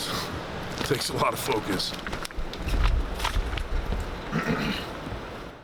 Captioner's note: cough